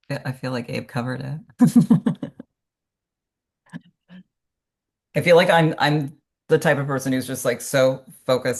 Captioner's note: laughs